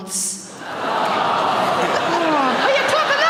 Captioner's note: audience awws